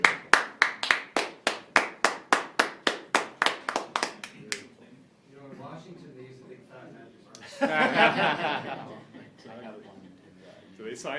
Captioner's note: applause; laughter